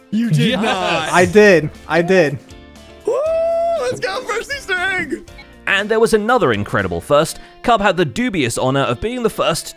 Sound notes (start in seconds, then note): 3.1 cheers